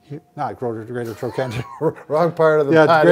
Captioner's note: laughs